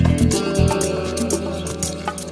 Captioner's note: none